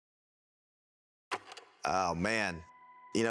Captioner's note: film reel clicks